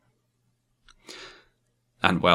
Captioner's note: inhales